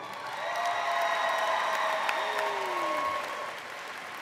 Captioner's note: audience applauds